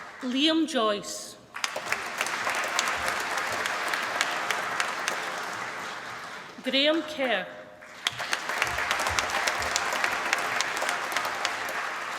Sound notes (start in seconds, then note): 1.4 applause